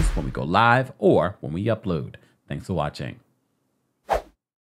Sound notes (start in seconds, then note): 3.7 segue whooshing